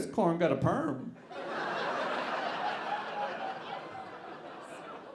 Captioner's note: audience laughing